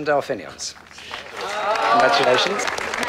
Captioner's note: applause